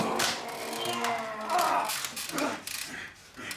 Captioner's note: grunting